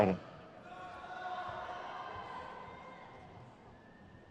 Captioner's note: crowd cheers